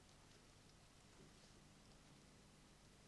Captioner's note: none